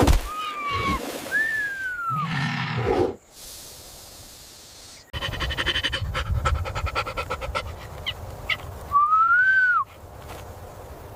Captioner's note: panting